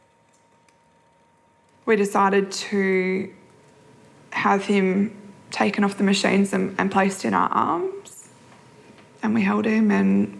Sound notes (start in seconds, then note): none